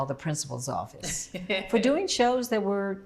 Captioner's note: laughs